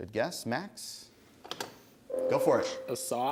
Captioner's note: ding